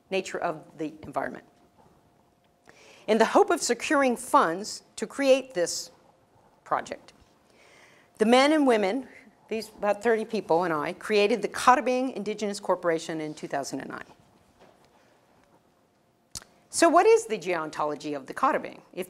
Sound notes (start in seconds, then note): none